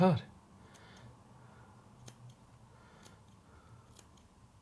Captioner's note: scissors snipping